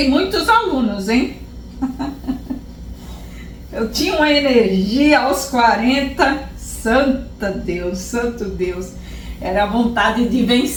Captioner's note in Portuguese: risos